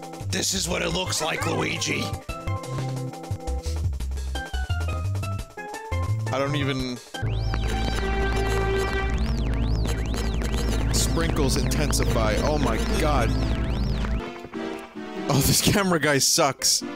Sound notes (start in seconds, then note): 5.9 normal voice